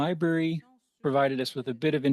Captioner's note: speaking French